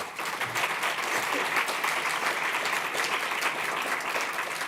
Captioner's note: audience applauding